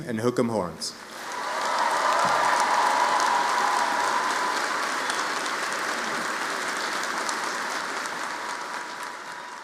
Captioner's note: applause